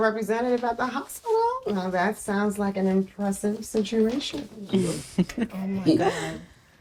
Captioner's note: laughing